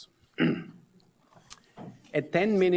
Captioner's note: ahems